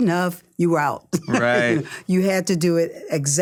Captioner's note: laughs